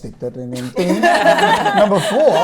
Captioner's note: laughter